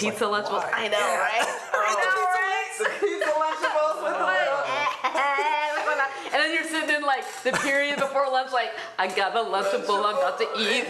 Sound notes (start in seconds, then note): 2.7 laughter; 3.4 group chatter and laughter